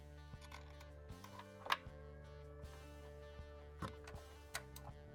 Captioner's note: parts clicking